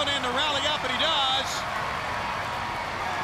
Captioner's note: crowd cheering